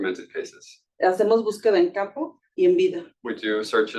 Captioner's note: speaking Spanish